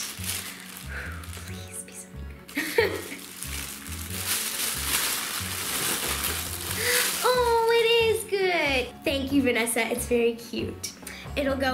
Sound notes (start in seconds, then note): 1.6 whispers